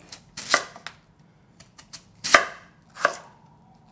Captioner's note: knife chopping